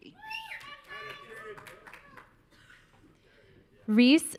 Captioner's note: audience cheering